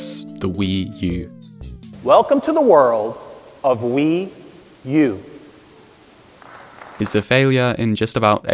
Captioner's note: slow applause